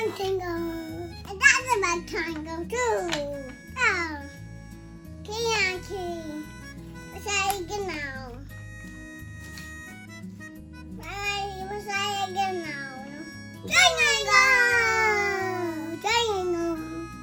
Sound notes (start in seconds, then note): 3.8 babbling